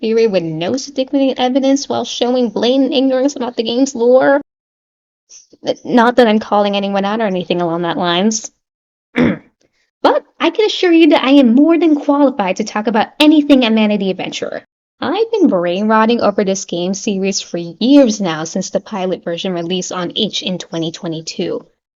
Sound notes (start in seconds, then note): 9.1 clears throat